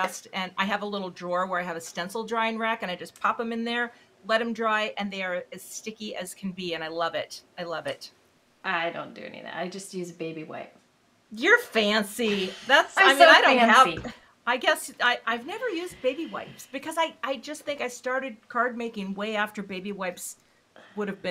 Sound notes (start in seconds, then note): 12.9 laughing